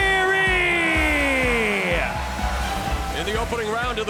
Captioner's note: audience cheering